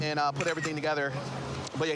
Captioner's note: camera app clicks